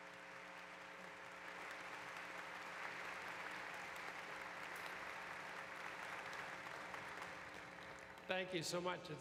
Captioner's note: applause